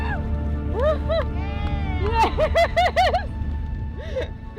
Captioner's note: everyone shouts and hollers